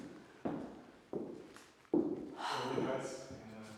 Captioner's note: footsteps banging